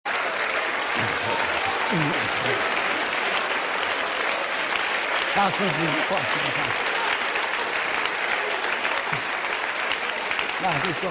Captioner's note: Applaus